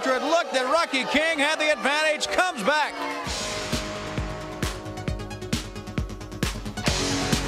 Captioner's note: bell ringing